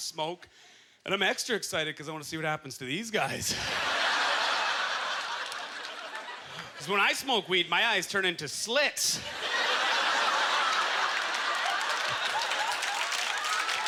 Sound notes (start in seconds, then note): 3.5 audience laughter; 9.2 audience laughter; 10.1 applause